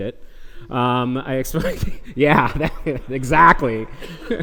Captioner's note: laughs